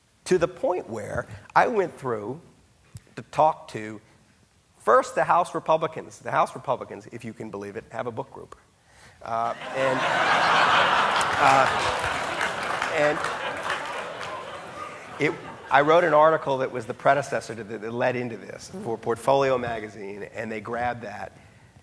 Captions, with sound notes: to the point where I went through to talk to first the House Republicans. The House Republicans if you can believe it have a book group. (audience laughing) And, it, I wrote an article that was the predecessor that led into this for "Portfolio Magazine" and they grabbed that.